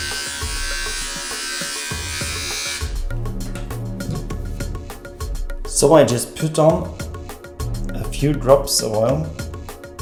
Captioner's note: beard trimmer sound